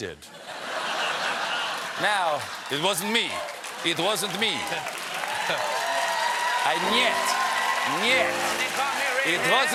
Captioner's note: laughter